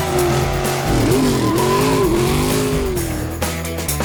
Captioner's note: V8: BRRRRAAAAAAAP. Turbos: whoooooosh. Tyres: help